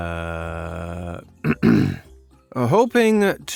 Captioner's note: ahem